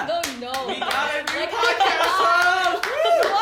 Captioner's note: clapping; whooping